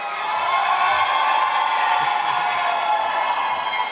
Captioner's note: applause